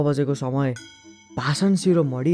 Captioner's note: bell chimes